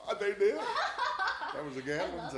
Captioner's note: laughs